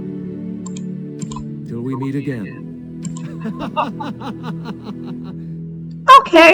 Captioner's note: laughs menacingly